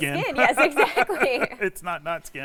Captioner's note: laughs